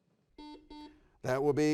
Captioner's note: buzzer beeping